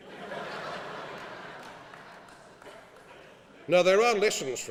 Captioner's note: laughing